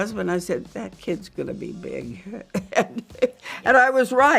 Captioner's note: laughs